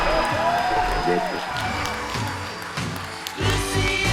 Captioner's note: radio static